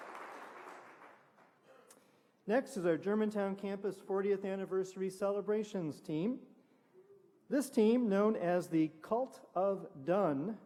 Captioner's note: applause